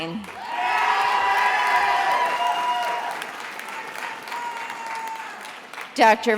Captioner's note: attendees applauding and cheering